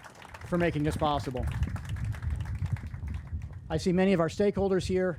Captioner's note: crowd applauding